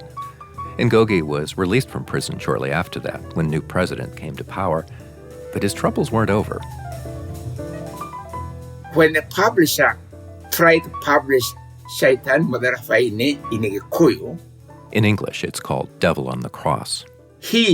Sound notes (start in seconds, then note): 6.4 light jazz music; 11.4 speaking foreign language